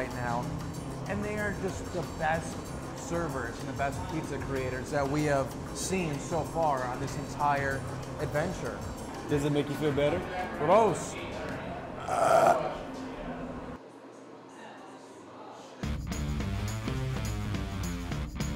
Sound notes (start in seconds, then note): 14.5 burps